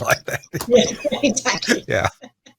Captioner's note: chuckles